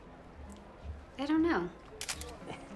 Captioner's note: camera clicks